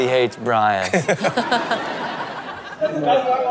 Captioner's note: laughing